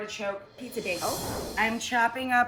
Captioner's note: air whooshing